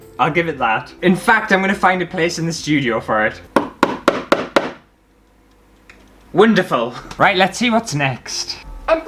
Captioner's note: hammer Sounds